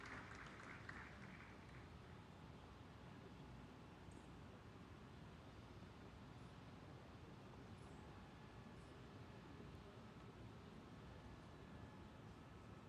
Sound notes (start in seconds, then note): 0.0 applause